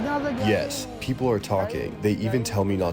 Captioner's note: through translator